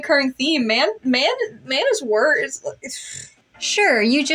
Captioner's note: stammer